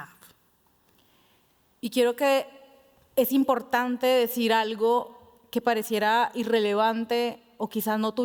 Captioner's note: speaking Spanish